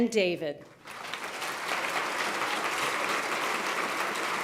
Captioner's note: applause